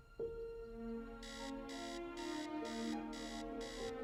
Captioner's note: buzzing